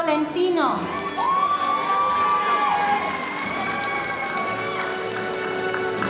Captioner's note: audience applauding